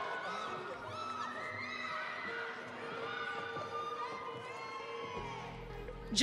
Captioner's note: audience cheering